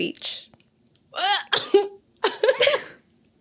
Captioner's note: laughs